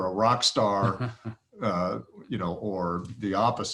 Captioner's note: laughs